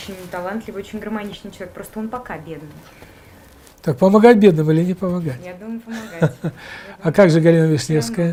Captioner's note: chuckle